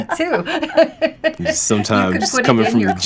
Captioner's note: laughter